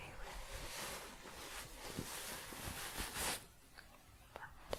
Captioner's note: shuffling